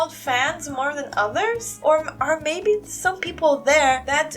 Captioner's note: none